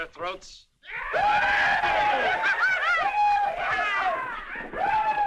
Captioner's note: whooping